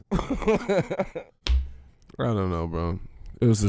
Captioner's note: Quentin laughing